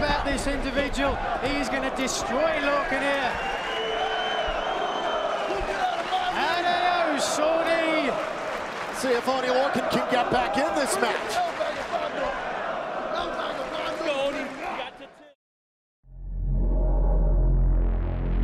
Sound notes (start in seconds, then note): 4.6 fans chanting